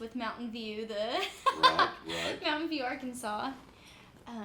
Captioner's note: laughs